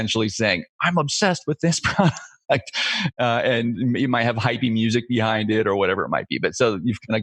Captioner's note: laughs